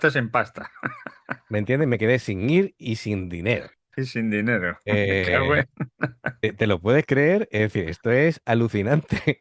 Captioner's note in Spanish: risas